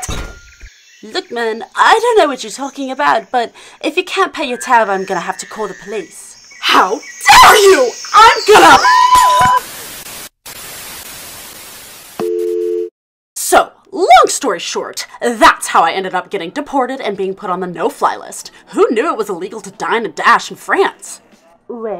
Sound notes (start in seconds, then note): 9.2 Static; 12.2 phone rings